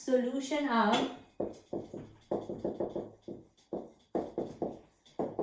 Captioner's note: writing Sounds